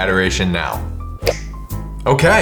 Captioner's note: finger snaps